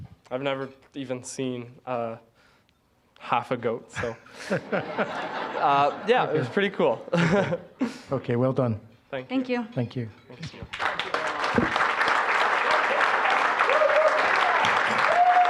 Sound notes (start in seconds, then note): 4.3 audience laughing; 7.1 laughing; 10.5 applause